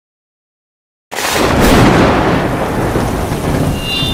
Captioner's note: loud Thunder Clap; speaker Feedback